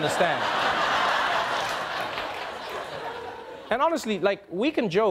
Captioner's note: audience laughing